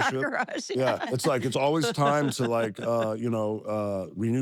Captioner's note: laugh